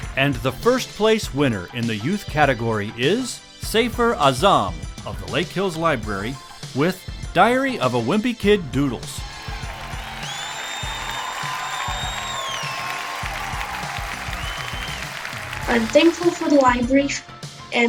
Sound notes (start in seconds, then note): 9.2 crowd cheering; 9.2 crowd applauding